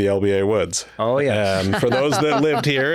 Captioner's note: laughing